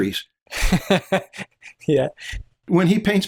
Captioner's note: laughter